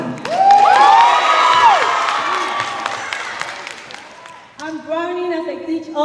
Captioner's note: cheers and applause